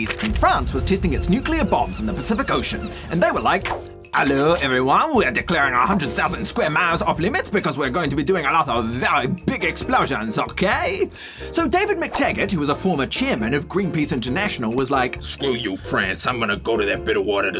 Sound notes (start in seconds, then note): 3.8 french accent; 15.0 deep voice